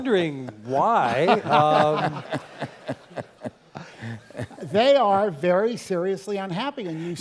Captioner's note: laugh